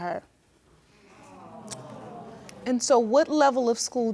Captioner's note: audience sympathizing